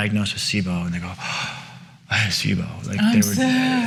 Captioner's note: gasps